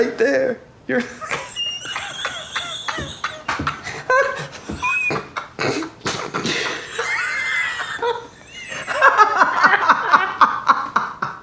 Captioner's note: hysterical laughter